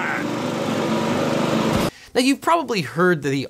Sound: tractor engine roars

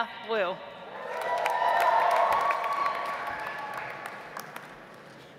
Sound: audience applauds

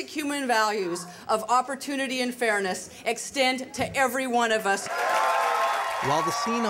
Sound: cheers

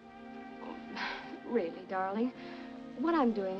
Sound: sighs

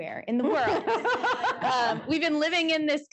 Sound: laughter

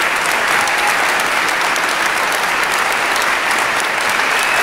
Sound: cheering, clapping

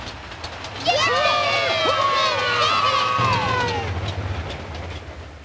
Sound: cheering

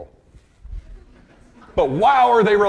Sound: audience laughing

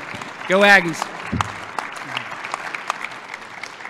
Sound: applause

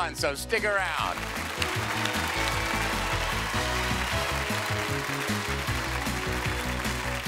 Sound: cheers and applause; upbeat music

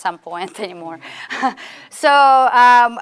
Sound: students laughing

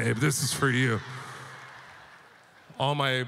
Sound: audience laughter

